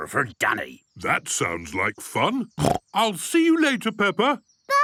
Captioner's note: snorting